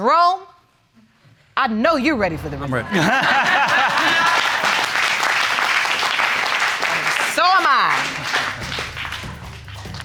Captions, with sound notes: Jerome, I know you're ready for the results. I'm ready. (ALL LAUGHING) (AUDIENCE CLAPPING) And so am I.